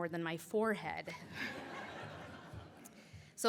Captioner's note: laughter